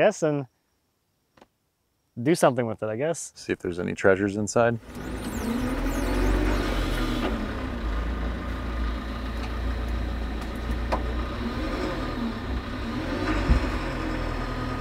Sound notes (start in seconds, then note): 7.4 engine rumbling